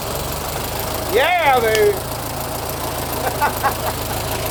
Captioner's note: engine starts; engine idles; men laugh